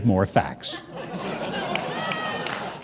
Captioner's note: audience laughter and clapping